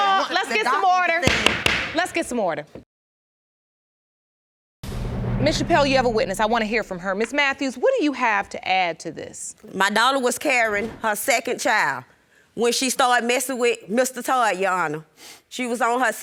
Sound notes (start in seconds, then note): 2.1 bangs gavel